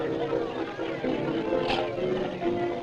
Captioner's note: ice clatters